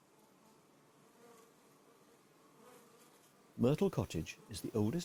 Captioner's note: bees hum